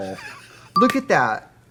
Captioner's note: Katya laughing